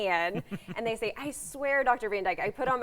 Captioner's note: laughs